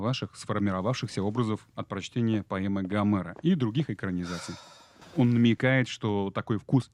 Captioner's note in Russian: вздыхает